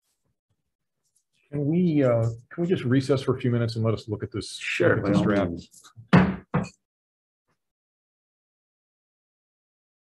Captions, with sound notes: Can we just recess for a few minutes and let us look at this shared. - Sure, by all means! (gavel banging)